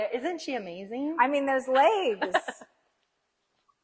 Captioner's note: laughs